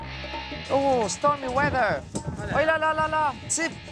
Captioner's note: in English